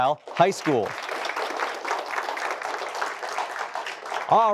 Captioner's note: applause